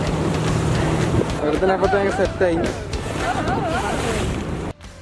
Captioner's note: laughing